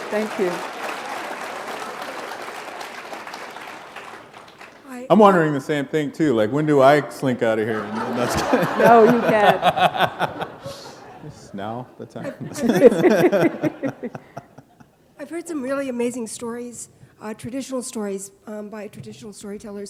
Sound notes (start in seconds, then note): 0.0 applause; 7.6 laughter